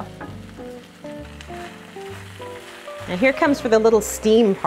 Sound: pan sizzling quietly

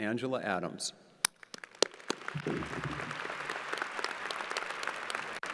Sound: crowd applauding

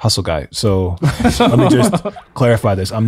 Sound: group laughs

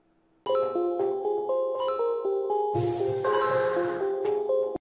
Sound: retro gaming music; retro gaming dings

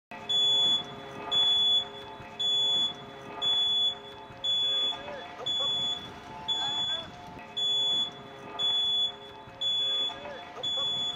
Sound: audible waring

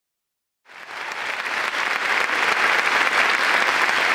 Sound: applause

